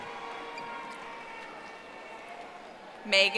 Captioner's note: audience applauding